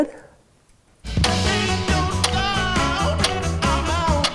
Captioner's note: clock ticking